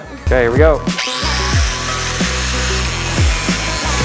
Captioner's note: buzz saw; dubstep music